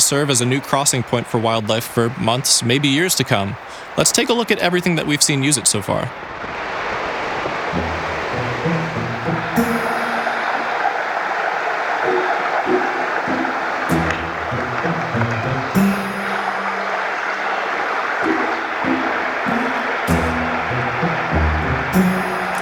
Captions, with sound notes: as a new crossing point for wildlife for months, maybe years to come. Let's take a look at everything that we've seen use it so far. [water rushing]